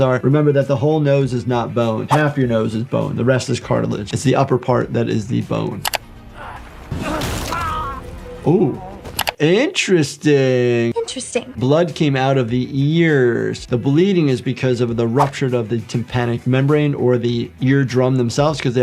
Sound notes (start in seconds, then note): 5.8 screen clicking; 6.3 character grunting; 6.6 flesh splatting; 6.9 hands thumping; 9.2 screen clicking